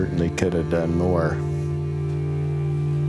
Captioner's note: exhales